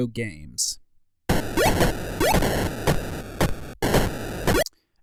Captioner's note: video game sound effects